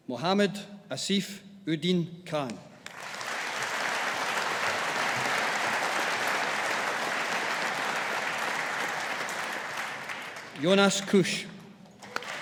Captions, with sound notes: Mohammed Asif Uddin Khan. (AUDIENCE APPLAUDING) Jonas Kusch.